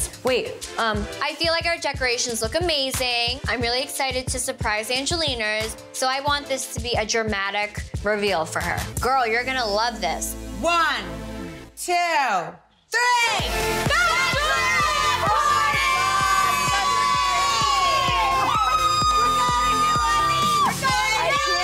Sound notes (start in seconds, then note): 18.2 cheering; 21.3 screaming